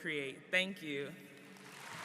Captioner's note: applause